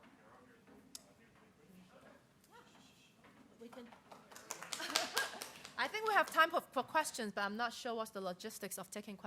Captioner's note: scattered applause